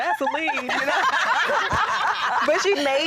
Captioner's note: laughter